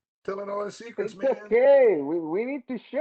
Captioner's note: laughs